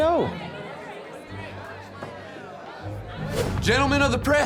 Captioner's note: chattering